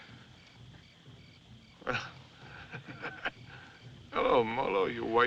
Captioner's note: laughs